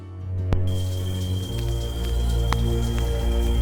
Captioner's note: brooding music; water splashing